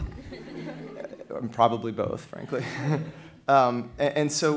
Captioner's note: laughter